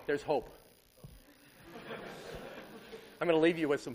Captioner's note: laughter